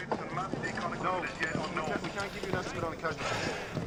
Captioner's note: man over radio